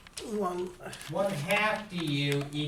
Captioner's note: voiceover